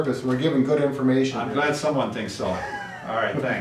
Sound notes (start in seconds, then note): 2.4 laughing